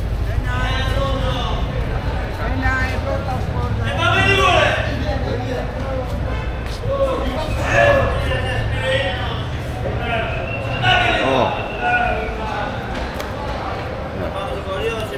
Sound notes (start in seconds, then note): 0.7 crowd chattering; 5.1 crowd chattering